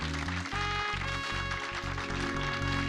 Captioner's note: audience applauding